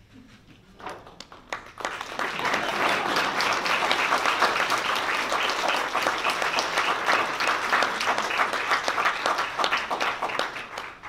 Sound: applause

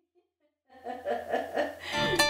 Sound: offscreen laughter

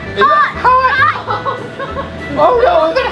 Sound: laughs

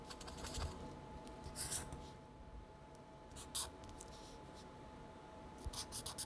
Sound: marker sketches

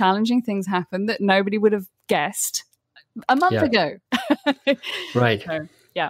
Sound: laughs

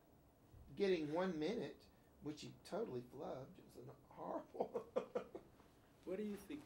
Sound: laughs

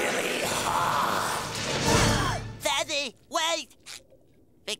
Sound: gasping

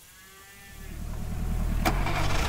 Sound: cow mooing; truck revving

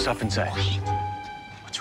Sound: loud whisper

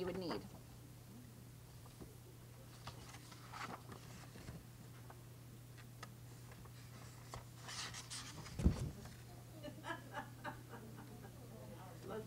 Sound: chatter

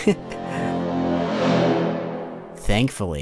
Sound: dramatic horn

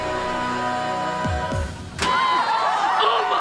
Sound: cheering

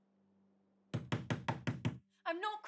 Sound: door banging

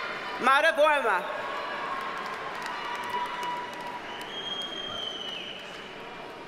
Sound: audience cheers and applauds

